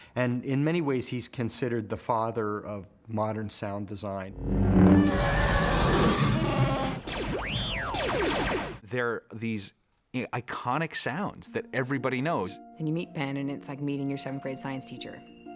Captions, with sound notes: And in many ways, he's considered the father of modern sound design. (WHOOSHING) (CHEWBACCA GROANING) (WARBLING EXCITEDLY) They're these iconic sounds that everybody knows. And you meet Ben and it's like meeting your seventh-grade science teacher.